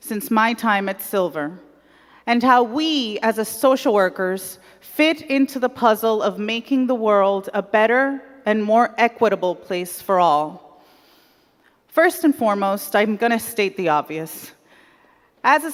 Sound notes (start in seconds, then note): none